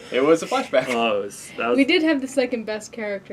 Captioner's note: groan